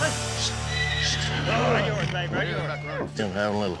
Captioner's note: horse neighing